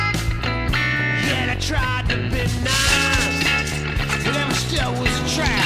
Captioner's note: bag crinkling